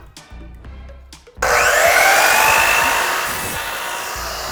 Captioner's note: upbeat music; saw buzzing